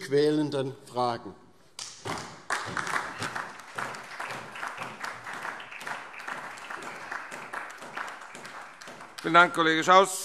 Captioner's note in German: Beifall DIE LINKE und SPD